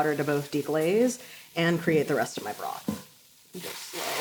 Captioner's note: water sizzles